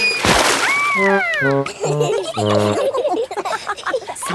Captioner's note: all laughing